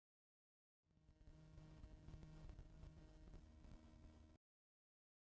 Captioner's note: static noises